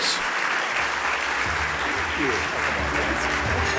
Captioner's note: applause